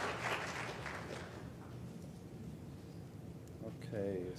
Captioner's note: applause